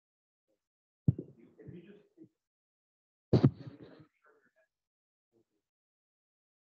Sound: silence

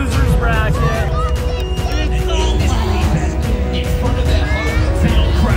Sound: people clamoring

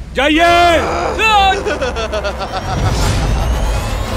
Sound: laughs

